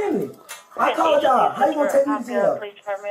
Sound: radio chatter

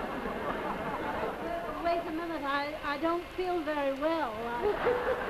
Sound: audience laughs; Gurney, over laughter; audience laughs

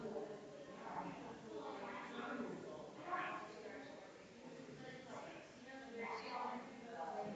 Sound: people chattering distantly continues

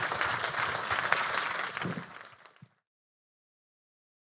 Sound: audience applauding

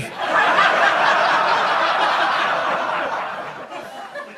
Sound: audience laughing

